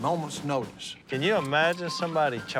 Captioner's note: none